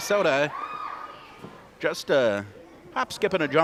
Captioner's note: crowd cheers